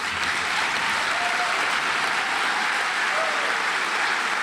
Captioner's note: audience applauds